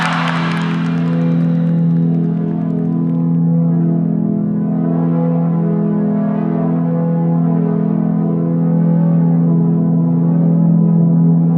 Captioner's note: cheering and applauding